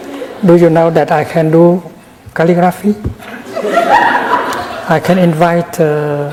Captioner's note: laughter in the audience